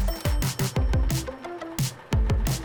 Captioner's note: truck braking to a stop and a cash register opening chime sound effects; truck idling sound effect; truck engine driving sound effect. Music fades